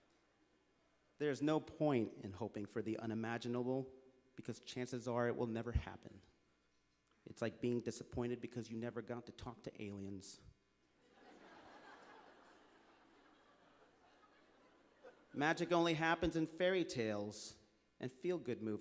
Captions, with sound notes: There is no point in hoping for the unimaginable because chances are it will never happen. It’s like being disappointed because you never got to talk to aliens. (Laughter) Magic only happens in fairy tales and feel-good movies.